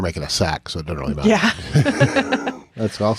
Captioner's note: both chuckling